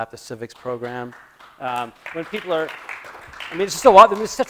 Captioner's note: applause